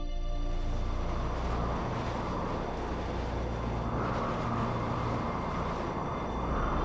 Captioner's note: strong wind blowing